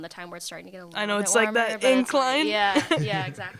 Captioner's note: laughter